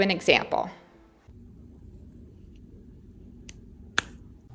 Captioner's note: marker cap opening